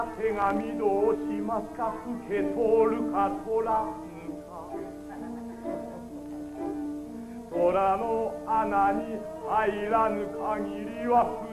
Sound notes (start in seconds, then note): 5.7 Shogun blissfully laughs